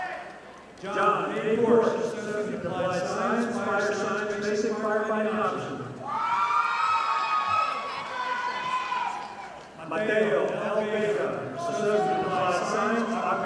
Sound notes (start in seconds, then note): 6.4 audience applauding